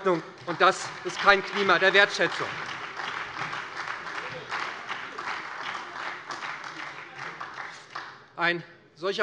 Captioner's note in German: Beifall bei der SPD